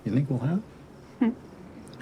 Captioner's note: Grace chuckles